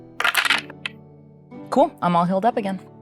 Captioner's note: dice clinks